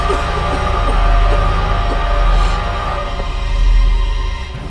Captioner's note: Heather coughing